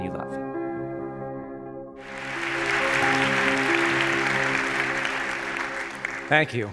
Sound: clapping

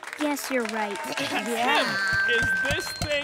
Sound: cheers

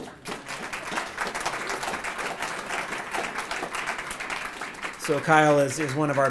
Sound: applause

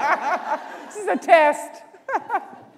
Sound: laughter

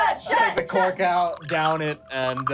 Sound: water pouring

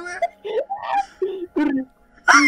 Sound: screech; Spray's screech

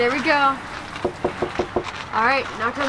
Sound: knocking

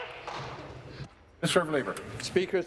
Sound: applause

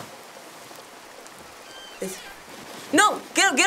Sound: door squeaks

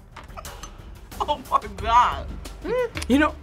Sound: laughs

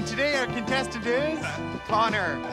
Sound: laughs

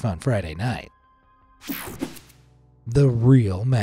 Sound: techno sound effect

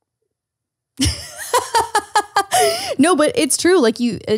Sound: laughing

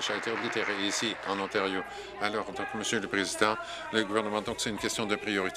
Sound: applause

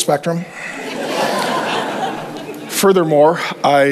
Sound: congregation laughs

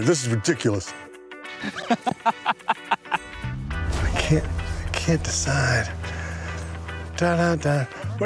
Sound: laughter

